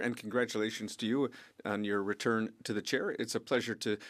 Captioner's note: speaking French